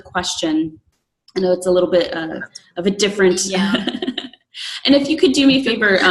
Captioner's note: laughs